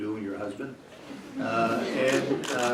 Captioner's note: laughter